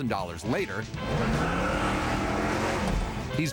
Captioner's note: engine revving